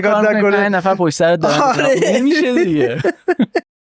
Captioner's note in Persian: خنده